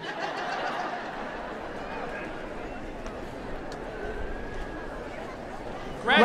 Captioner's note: applause